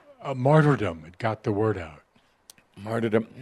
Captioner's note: none